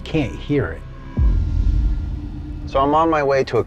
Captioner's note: booming sound effect